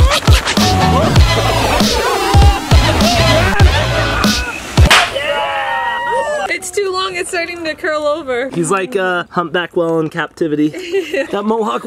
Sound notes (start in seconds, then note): 5.8 crowd cheering; 10.8 laughing